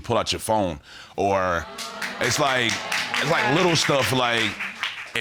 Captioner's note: audience laughs